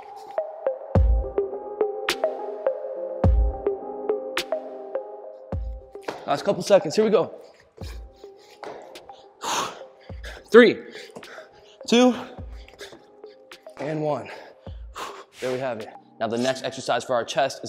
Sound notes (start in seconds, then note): 0.0 rhythmic digital music; 9.4 exhales loudly; 15.0 exhales loudly